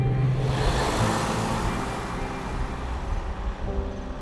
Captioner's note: car noise